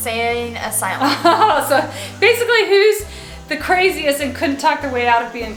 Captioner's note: laughs